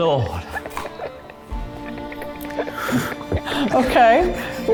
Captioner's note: all laugh